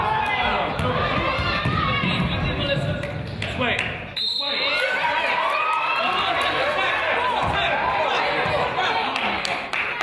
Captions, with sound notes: - This way, this way. (crowd applauds)